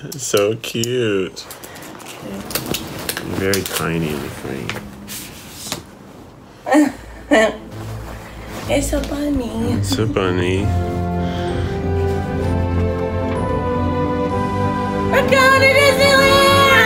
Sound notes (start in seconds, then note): 1.5 camera rustling; 2.2 paper tearing; 6.8 chuckles; 9.6 exciting music